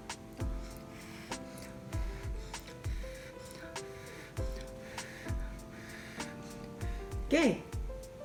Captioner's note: blowing